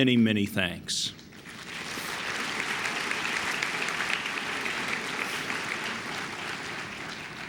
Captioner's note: applause